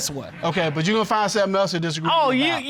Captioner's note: none